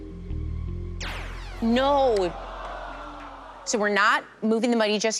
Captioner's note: zap